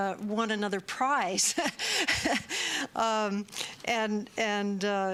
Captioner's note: chuckles